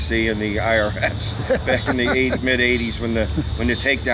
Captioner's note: both laugh